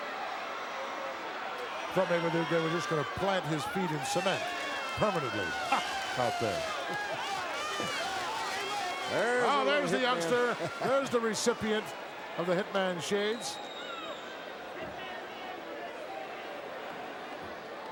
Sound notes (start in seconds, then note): 6.6 crowd cheering; 14.0 crowd murmuring